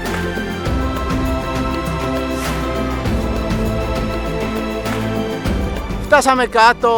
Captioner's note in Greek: χειροκρότημα